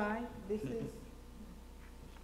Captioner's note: laughs